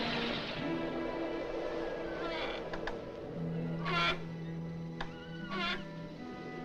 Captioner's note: hinges Creaking